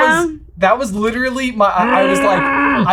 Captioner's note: grumbling